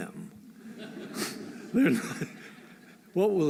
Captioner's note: laughter